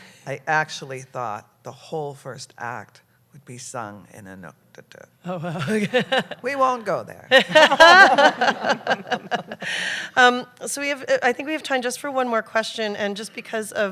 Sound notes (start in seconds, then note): 5.5 laughter